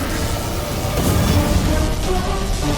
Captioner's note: wind blowing